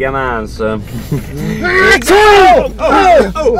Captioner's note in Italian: starnuto forte